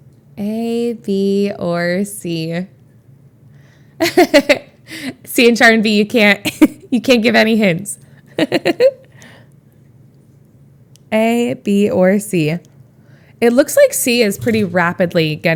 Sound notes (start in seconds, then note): 4.0 Emma laughs; 9.1 Emma laughs